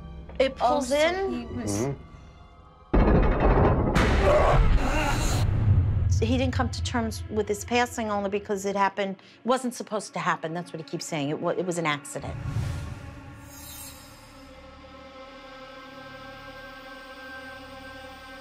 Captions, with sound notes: Oh, so he was-- Mm-hmm. [clanking] [groaning] So he didn't come to terms with his passing only because it wasn't supposed to happen. That's what he keeps saying. It was it was an accident. [tense music]